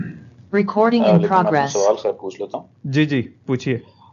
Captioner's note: computer generated sound